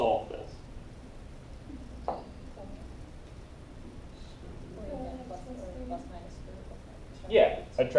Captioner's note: background talking